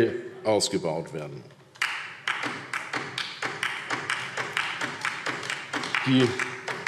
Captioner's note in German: Beifall DIE LINKE